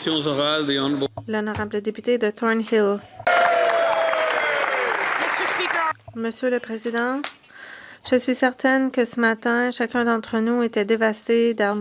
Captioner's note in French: applaudissements; voix de l'interprète